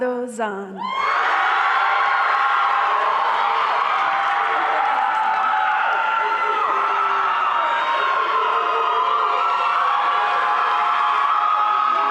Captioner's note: applause